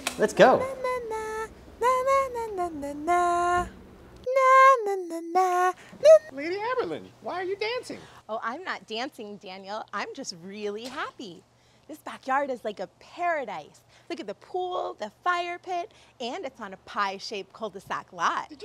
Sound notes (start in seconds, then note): 1.3 tiger puppet humming